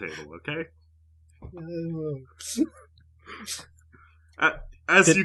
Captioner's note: Markus wincing in pain